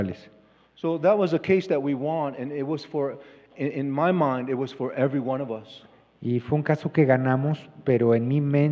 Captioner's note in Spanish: Expositor habla en inglés